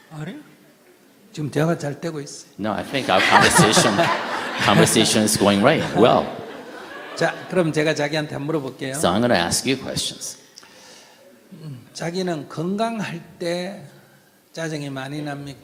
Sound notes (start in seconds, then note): 6.2 /Questioner/Audience Laughter